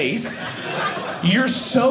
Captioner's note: audience laughing